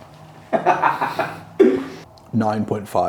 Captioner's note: laughs